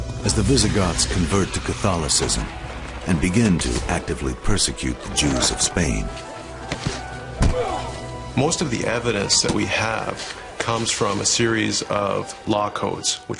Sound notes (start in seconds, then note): 7.7 uh!